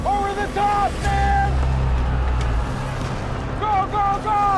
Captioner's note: shouting